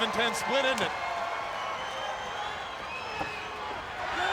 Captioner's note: crowd clamoring